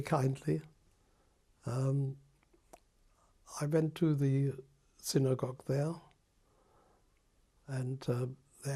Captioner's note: pauses for 3 seconds